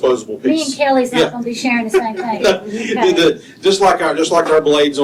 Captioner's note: laughter